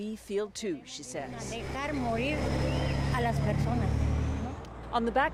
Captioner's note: speaking foreign language